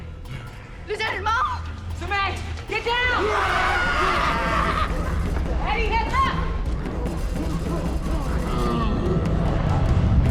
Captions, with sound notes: Lieutenat Mong! Sun Mei, get down! [snarling]